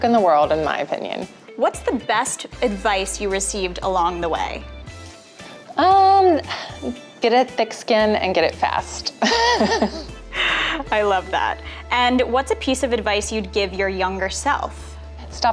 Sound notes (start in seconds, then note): 9.2 laughs